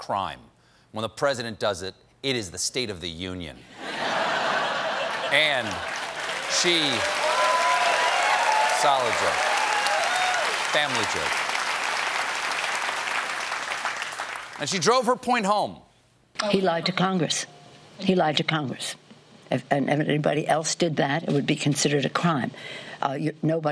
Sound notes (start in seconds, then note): 3.7 laughter; 5.0 applause